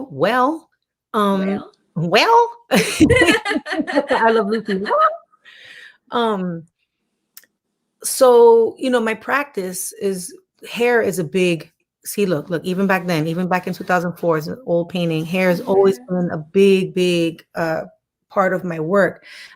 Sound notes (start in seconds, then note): 2.8 chuckling